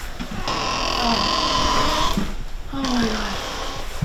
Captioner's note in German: Tür quietscht